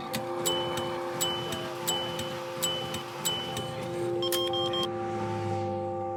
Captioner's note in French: compteur qui tourne et bipe